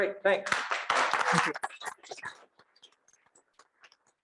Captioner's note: students applauding